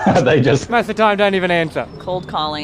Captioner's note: laughs